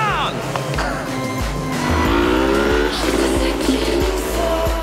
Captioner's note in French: vrombissement des moteurs